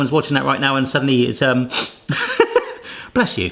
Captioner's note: sniffles; laughs